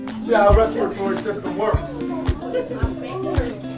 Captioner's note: laughing